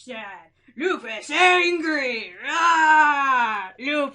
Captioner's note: unintimidating roar